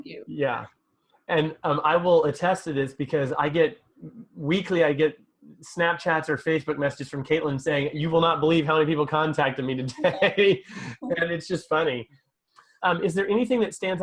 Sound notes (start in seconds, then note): 9.8 laughs